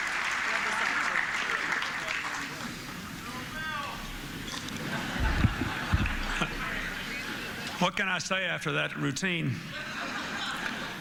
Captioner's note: Audience member calls out "Go Bill"